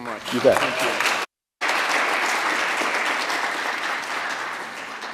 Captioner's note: audience applauds